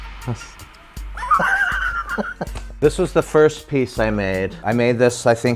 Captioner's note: laughs